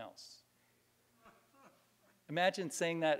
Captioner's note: laughter